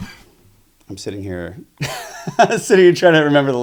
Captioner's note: laughs